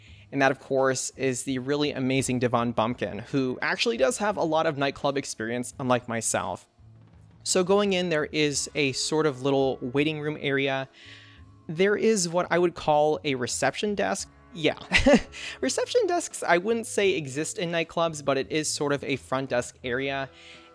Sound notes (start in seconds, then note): 14.8 laughs